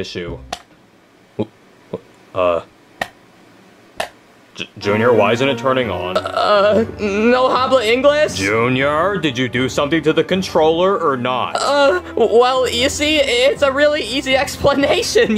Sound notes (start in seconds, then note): 0.3 controller clicking; 6.6 speaks in foreign language